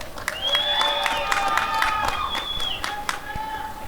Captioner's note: applause and cheering